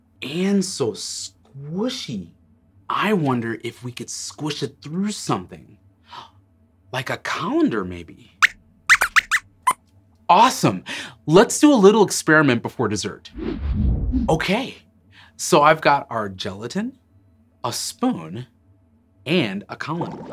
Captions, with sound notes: And so squishy! I wonder if we could squish it through something… like a colander maybe? [Squeaks squeaks] Awesome! Let’s do a little experiment before dessert! Okay! So, I’ve got our gelatin, a spoon, and a colander.